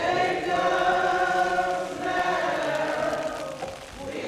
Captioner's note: rain pattering